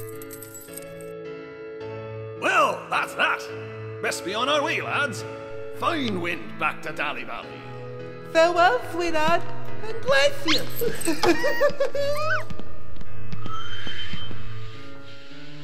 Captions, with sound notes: Well! That's that! Best be on our way, lads! Fine wind back to Dally Valley! Farewell, SweetHart! And bless ya! (PORTER GIGGLES) (COLETTE SQUEAK-GIGGLES)